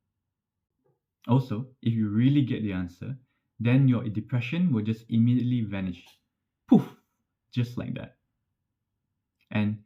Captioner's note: poof!